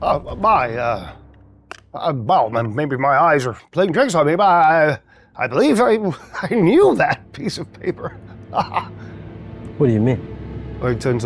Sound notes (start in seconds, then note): 8.5 laughs